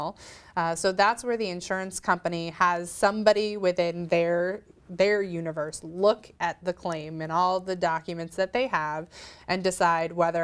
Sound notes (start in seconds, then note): none